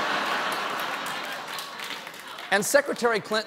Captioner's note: laughter; applause